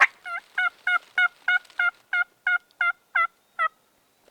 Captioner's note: turkey call